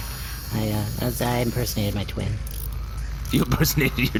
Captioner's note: laughing